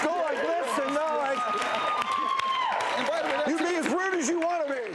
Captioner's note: audience cheering